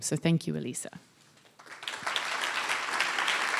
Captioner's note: applause